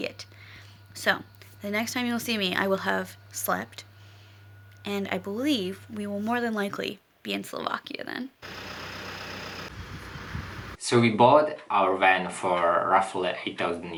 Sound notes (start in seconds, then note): 8.4 engine running